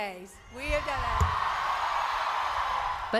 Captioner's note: cheering and applause